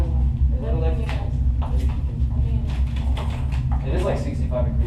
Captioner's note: chattering